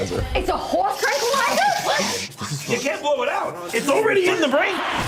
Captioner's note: people shush Sylvia